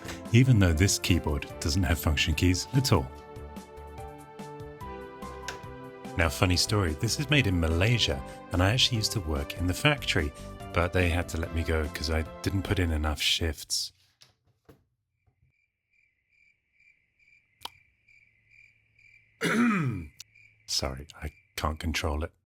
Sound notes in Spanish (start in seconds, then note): 19.4 se aclara la garganta